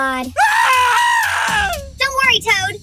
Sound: Toad screams

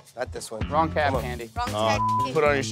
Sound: beep

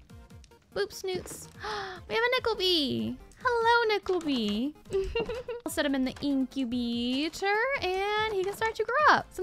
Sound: gasps

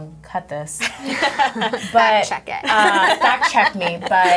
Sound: laughing

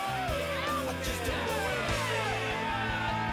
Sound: crowd cheering

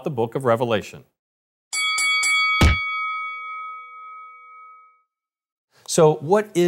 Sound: ding, ding, ding

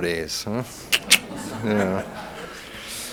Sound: room laughs

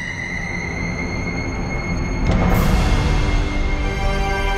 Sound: ghostly screeching

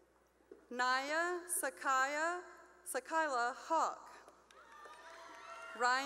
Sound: cheering

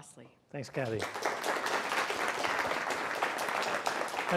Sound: applause

